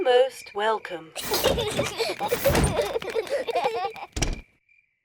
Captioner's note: children laugh